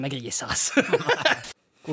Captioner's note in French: rires